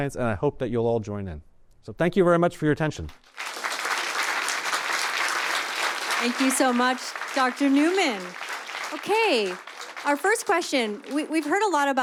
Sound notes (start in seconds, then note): 3.0 applause